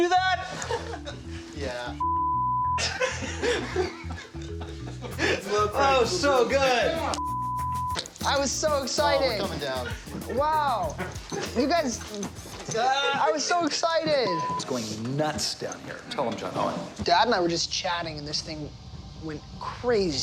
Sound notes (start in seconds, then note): 2.8 all laughing